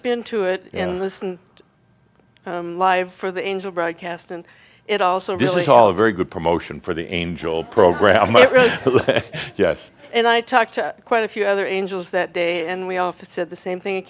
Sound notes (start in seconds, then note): 7.7 chuckling; 8.4 some chuckles